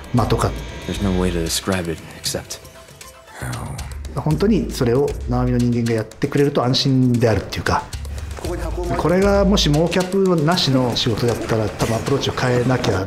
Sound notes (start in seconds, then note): 5.3 speaks Japanese